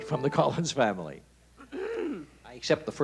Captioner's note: clearing throat